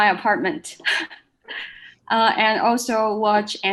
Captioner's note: laughs